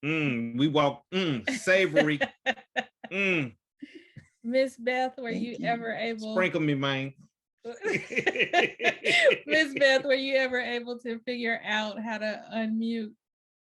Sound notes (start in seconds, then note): 1.4 chuckles; 7.7 laughter